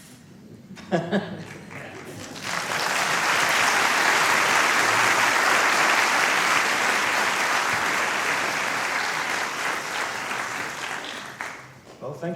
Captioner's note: applause